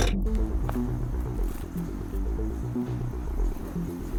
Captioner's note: crickets chirping